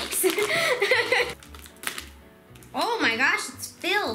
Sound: laughing

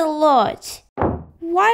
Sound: slam!

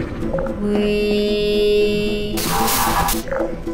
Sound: bzzt

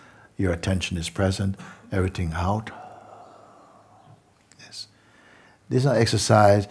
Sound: long exhale

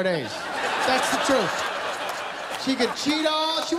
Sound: laughter

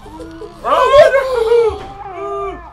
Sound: various terrified noises

